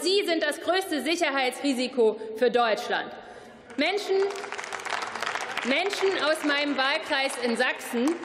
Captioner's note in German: Beifall